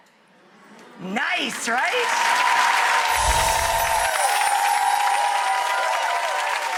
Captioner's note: audience applauds